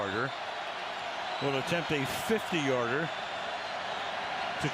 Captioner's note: cheers